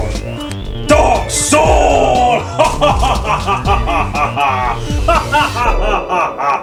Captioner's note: laughs; more laughing